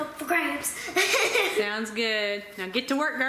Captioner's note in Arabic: يضحك